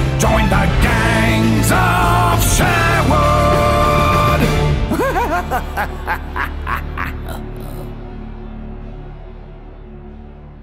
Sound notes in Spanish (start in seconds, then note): 4.8 Risas